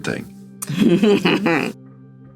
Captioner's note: Rhea chuckles